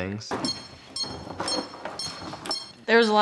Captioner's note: beeping